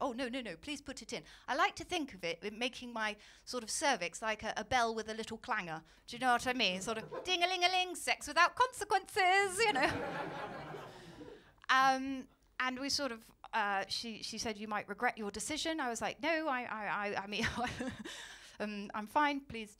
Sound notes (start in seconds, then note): 9.6 laughter